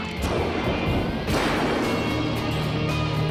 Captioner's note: gun firing; dramatic music